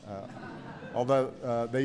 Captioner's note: laughter